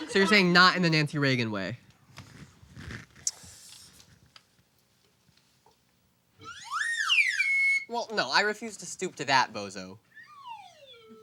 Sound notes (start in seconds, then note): 6.4 slide whistle